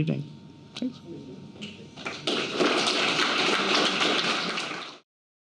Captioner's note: applause